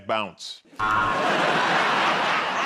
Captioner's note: buzzer; laughs